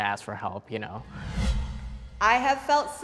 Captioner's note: air whooshing